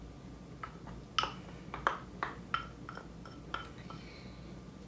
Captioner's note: utensil clattering